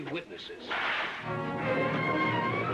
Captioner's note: cracking whip